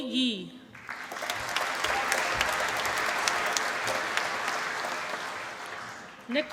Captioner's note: applause